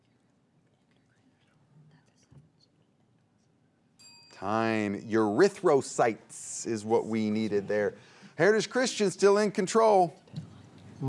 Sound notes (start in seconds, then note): 2.0 teammates whisper; 4.0 bell rings